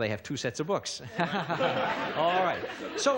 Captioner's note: laughter